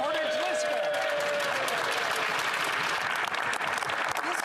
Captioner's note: speaking French